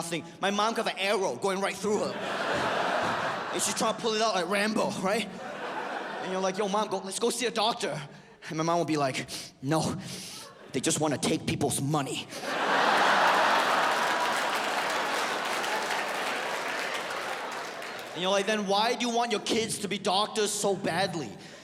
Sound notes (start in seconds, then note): 1.8 audience laughs; 12.3 audience laughs